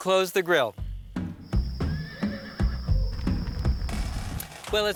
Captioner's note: energetic drum music; horse whinnies